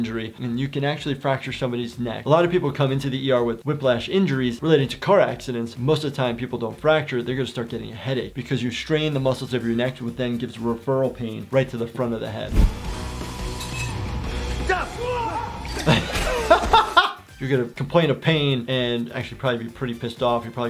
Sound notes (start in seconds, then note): 14.7 loud grunting; 16.5 loud laughing